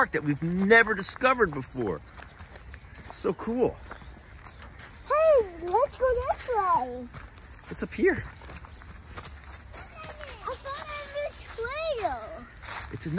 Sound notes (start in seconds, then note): 9.2 feet shuffling